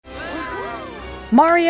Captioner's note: cheering